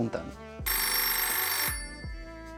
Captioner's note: riiiiiiiing